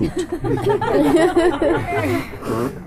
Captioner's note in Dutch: gelach